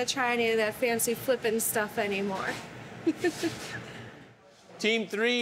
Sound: laughs

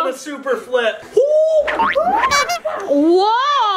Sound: people cheering; horn beeps

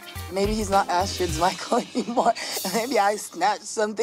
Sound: chuckling

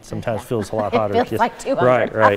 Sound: laughing

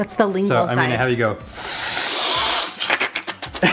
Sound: slurps; slurping

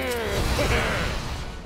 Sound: grumbling; giggles

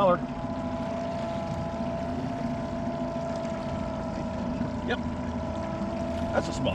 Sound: boat engine idling

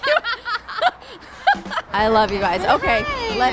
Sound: laughs

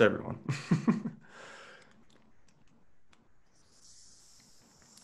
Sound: chuckles

